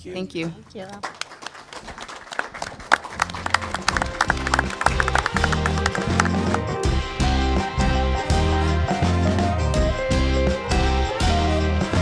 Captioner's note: applause